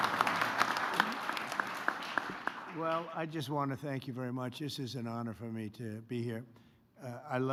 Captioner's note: applause